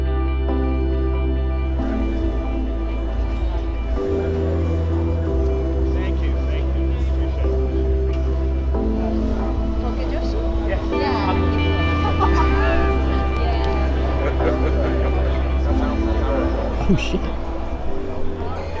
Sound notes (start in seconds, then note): 11.8 laughing; 14.8 chuckling